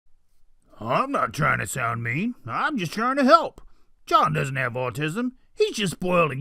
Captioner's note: gruff voice